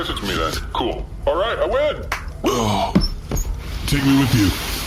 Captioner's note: claps